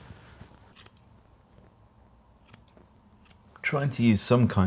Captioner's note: scissors snipping